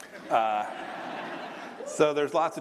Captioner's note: laughter